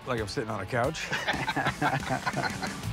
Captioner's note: laughter